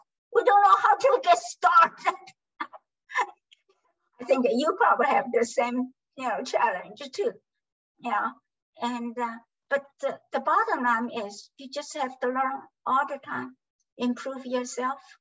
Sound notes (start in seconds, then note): 0.4 laughs